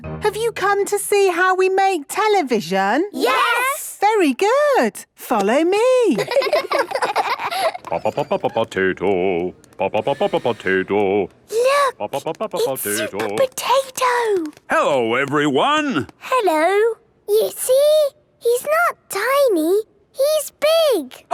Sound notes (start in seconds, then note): 6.1 children laughing; 8.0 sing-song voice; 11.6 hushed